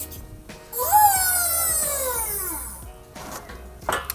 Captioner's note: tool squealing